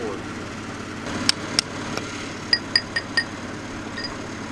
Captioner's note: hammer tapping